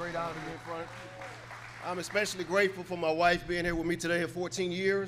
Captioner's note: applause